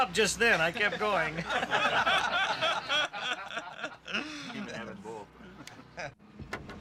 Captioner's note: laughter